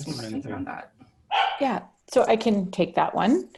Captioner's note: dog barks